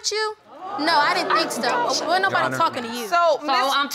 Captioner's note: audience gasping